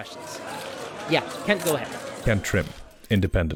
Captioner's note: reporters shouting questions